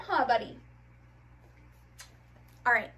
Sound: kisses

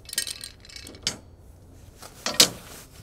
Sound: rattling

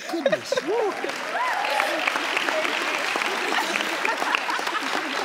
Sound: audience clapping

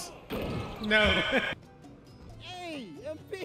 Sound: laughs

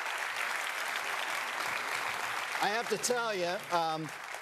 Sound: applause

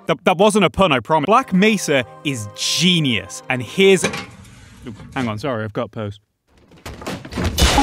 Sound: letter Box noise

